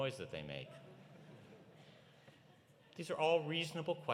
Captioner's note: audience laughing